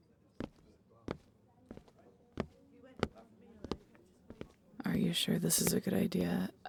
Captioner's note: nervous tone